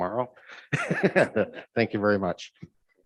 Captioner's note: chuckles